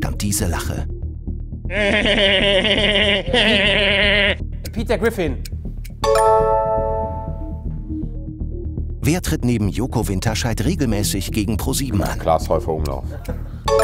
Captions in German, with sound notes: (Meckerndes Lachen) Peter Griffin. (Abwartende Musik) Klaas Heufer-Umlauf.